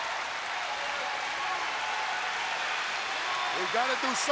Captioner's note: audience cheering and applauding